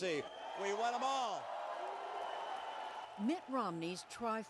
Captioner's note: cheering and applause